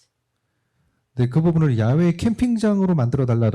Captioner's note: speaking korean